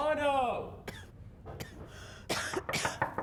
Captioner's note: coughing; knocking